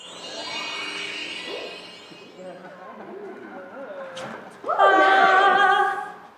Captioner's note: chimes